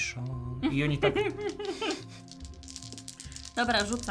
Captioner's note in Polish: śmiech